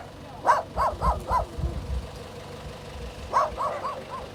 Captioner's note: truck engine rumbling